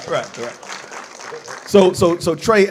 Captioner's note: audience applauds